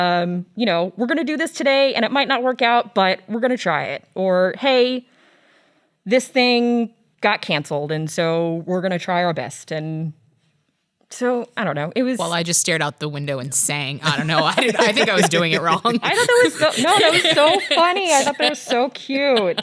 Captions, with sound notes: "We're gonna do this today. "And it might not work out, "but we're gotta try it." Or "Hey, this thing got canceled. "And so we're gonna try our best." And so I don't know it was-- - Well I just stared out the window and sang. (laughs) - I don't know, I think I was doing it wrong. - I thought that was so funny, I thought that was so cute.